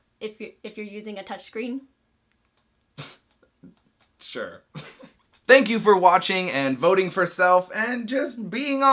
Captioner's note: laughter